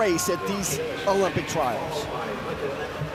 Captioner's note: audience cheering